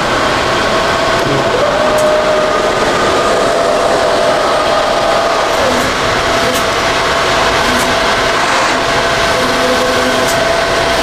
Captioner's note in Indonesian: suara mesin printer